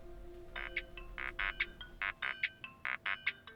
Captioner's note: cell phone rings